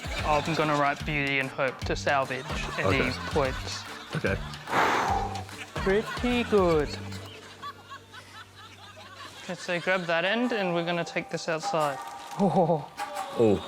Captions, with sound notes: I'm gonna write "Beauty and Hope" to salvage any points. OK. (EXHALES) Pretty good. Let's see. Grab that end, and we're gonna take this outside. Oh, oh, oh. Oh...